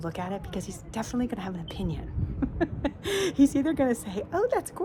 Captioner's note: laughing